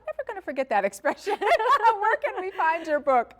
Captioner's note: laughing